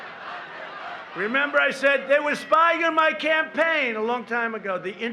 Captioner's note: chanting